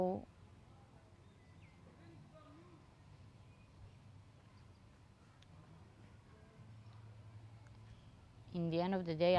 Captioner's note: pauses 8 seconds